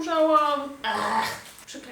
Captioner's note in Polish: jęki